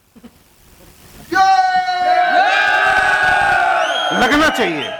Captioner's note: public cheering